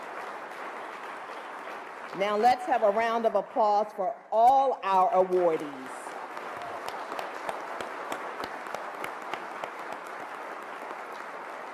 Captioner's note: applause